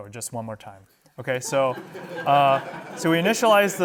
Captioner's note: laughter